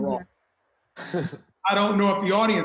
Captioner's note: laughs